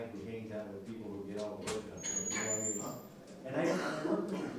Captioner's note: door squeaking